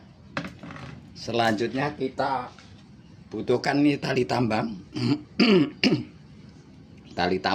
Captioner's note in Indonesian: batuk; berdehem